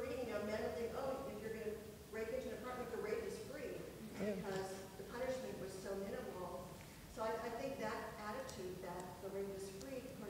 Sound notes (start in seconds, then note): 1.9 speaks quietly without mic